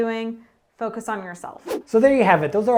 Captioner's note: air whooshing